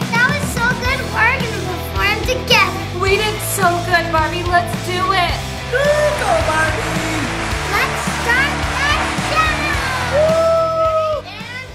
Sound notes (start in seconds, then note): 4.6 crowd cheering